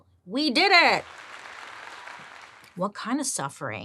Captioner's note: crowd applauding